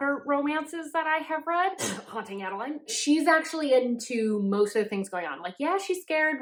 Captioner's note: cough